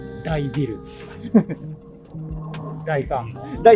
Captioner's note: laughing